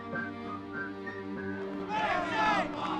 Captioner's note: protesters shouting